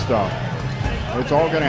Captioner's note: crowd Noise